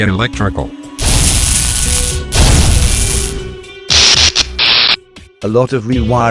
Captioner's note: electrical crackling